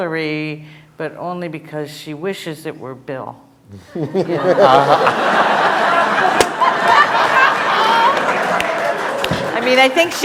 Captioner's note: laughter